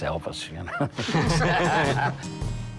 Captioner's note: laughter